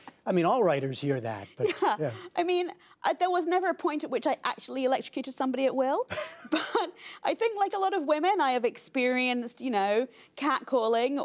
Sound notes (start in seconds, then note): 6.1 laughter